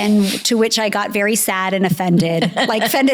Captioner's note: laughs